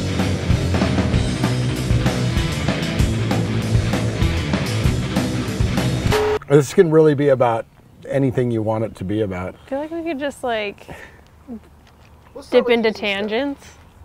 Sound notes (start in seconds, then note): 6.0 static